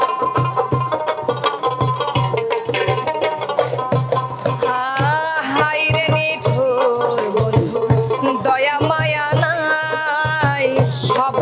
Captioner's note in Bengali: সশব্দ হাসি